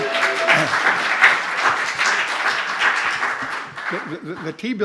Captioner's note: applause